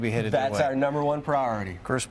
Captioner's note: laughs